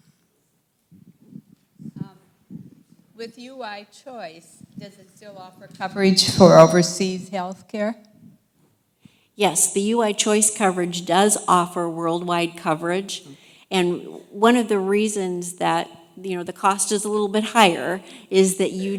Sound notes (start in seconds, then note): 3.3 voiceover